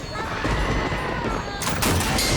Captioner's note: thunder